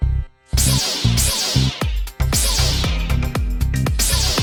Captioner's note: swords crackling